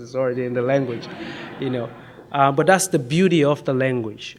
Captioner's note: audience laughs